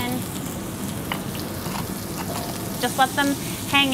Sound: dish sizzling

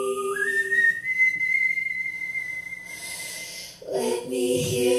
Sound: soft whistling

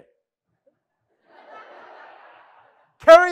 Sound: audience laughing

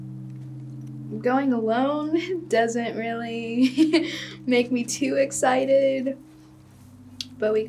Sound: laughs

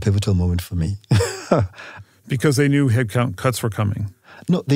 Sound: laugh

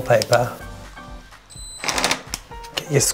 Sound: drilling

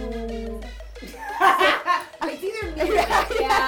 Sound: laughter

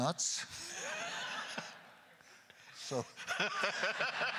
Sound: crowd laughter; crowd laughter continues; laughs

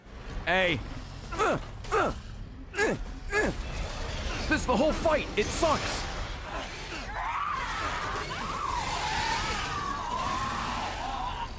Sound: stabbing noise

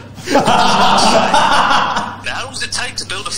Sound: laughs

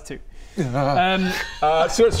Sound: struggling noises

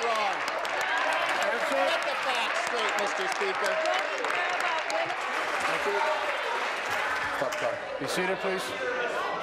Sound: applause

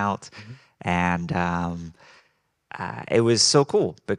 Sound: none

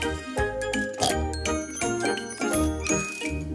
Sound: snort

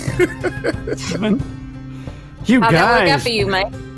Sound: wolf laughing

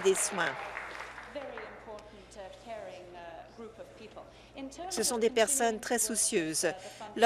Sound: applause

